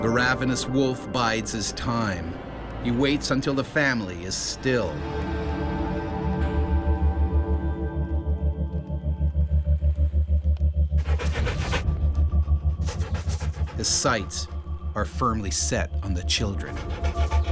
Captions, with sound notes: - [Voiceover] A ravenous wolf bides his time. He waits until the family is still. (suspenseful music) (wolf panting) His sights are firmly set on the children.